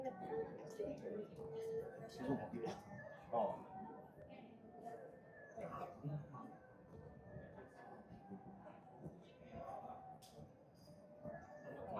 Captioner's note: crowd chattering